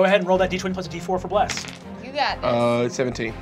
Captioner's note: dice clacking